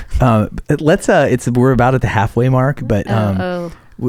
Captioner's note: laughing